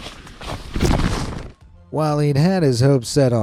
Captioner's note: footsteps thudding